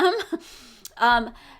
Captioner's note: chuckles